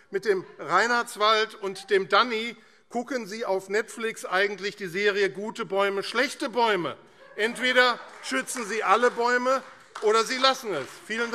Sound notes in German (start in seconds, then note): 7.4 Beifall AfD